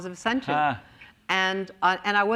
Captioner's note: laughs